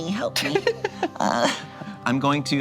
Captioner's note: laughs